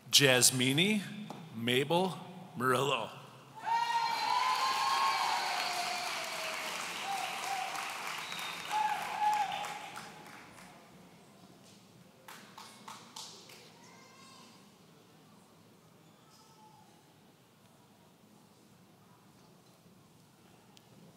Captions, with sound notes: Jasmini Mabel Morillo. (audience cheering)